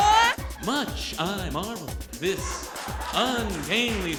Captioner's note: Imitating Captain Kirk